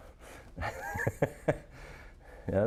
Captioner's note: laughing